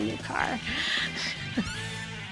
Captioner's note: laughs